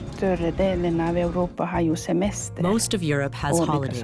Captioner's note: speaking in foreign language